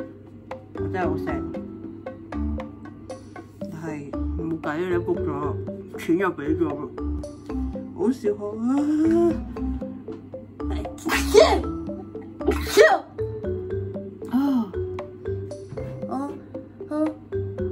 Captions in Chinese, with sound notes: This is so sad but I have already booked it... deposit paid... I rarely... (sneeze)